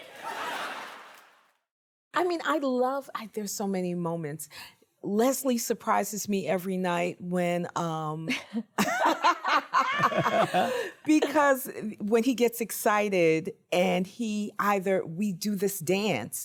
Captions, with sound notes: >> His heart stopped beating, didn't it?! >> I mean, I love... There are so many moments. Leslie surprises me every night when... [ Laughter ] Because when he gets excited and he either...